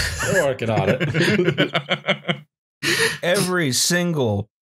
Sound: laughter

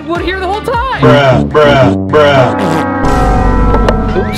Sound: voiceover

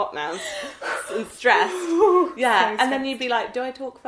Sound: huffs

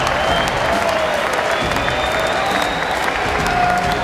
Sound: whistling

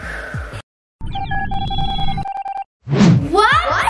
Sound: signal beeps

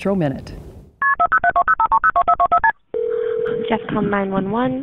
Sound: telephone dialing

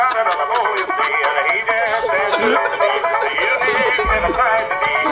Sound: cries; howls like a banshee

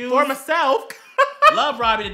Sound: gay ass laugh

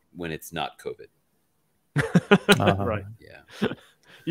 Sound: laughing

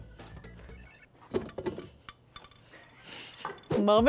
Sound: mixer clattering

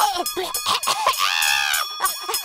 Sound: screaming; bells and sirens

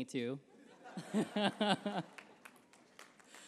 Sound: laughter

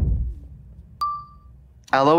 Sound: air whooshing; pause chime dinging

